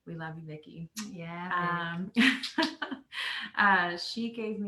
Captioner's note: laughing